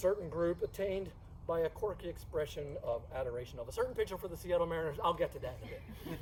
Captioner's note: talks faster